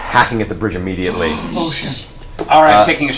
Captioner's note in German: keucht auf